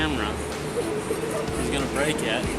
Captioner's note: laughs